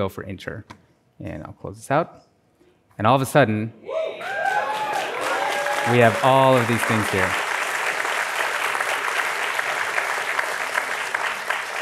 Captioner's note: applause